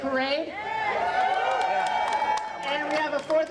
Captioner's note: audience applauding